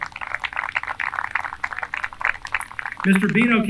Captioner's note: applause